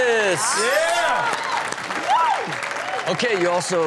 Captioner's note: audience cheers